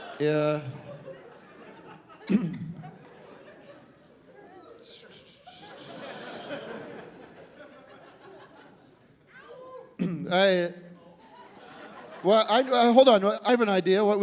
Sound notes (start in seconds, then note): 2.2 clears throat; 4.9 whistles through teeth